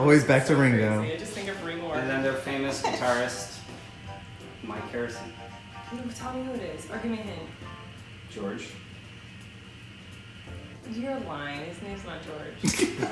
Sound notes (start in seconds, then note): 2.7 laughing